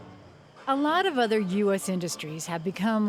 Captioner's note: voiceover